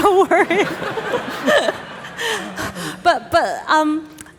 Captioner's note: audience laughing